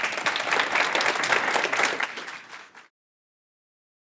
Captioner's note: audience applauding